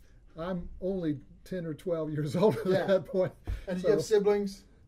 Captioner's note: laughs